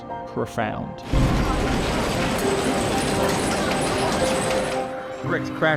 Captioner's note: building shaking